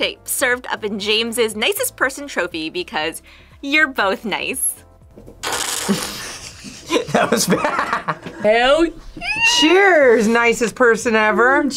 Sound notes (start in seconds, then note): 5.4 slurps; 5.8 both laugh